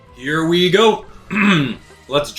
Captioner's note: clears throat